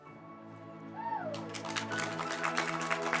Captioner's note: clapping; upbeat music